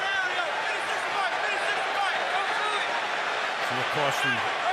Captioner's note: shouting on field